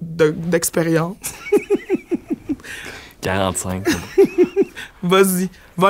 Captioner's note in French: éclat de rire